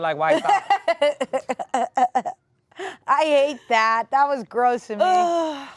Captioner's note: laughs